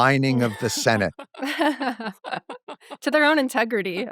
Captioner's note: laughter